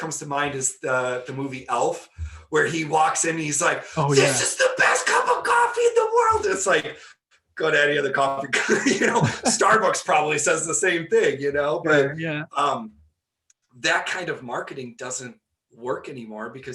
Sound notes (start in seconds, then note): 8.4 laughing